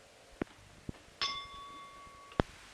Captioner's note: bell Sound